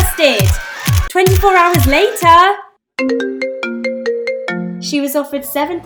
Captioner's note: phone ringing